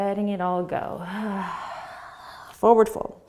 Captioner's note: sighing exhale